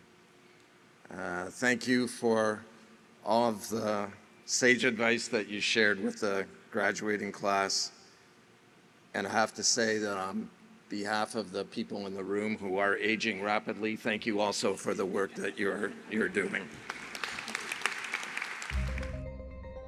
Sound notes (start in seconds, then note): 16.4 applause